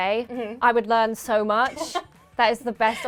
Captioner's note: laughing